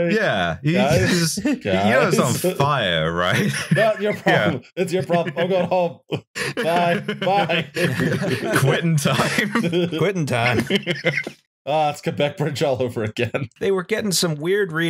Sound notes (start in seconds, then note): 1.9 chuckles; 6.3 chuckles; 8.0 laughter